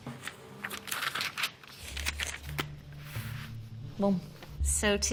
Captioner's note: paper rummaging